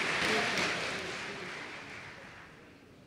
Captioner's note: applause